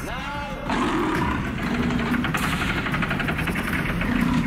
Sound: lion growling

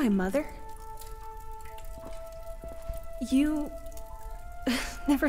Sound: chuckle

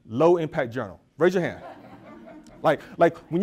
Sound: audience laughs

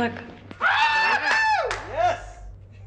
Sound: all applauding

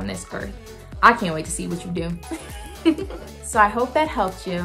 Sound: laughing

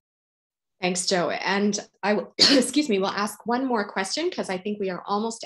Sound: coughs

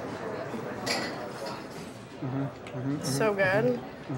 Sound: people chattering

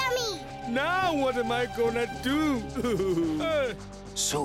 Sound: sobbing

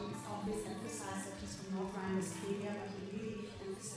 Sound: speaking foreign language

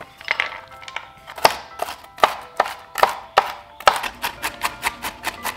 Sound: chopping

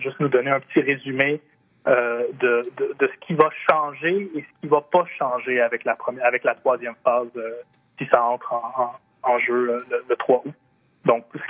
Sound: speaking French

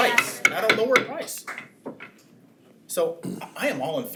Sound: gavel pounds

